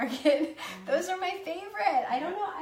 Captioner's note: laughs